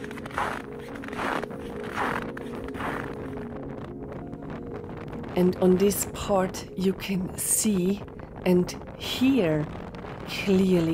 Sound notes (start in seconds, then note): 1.5 strong wind